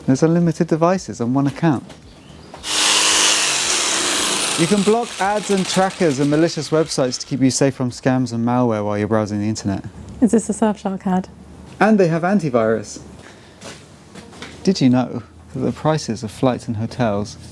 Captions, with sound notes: There's unlimited devices on one account. (whirring) You can block ads and trackers and malicious websites to keep you safe from scams and malware while you're browsing the internet. Is this a Surfshark ad? And they have antivirus. Did you know that the prices of flights and hotels